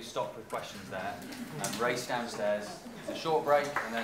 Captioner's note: applause